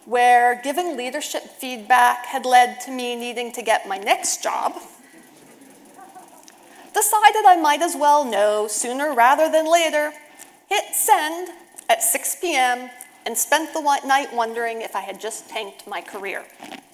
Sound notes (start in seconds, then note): 5.0 audience laughing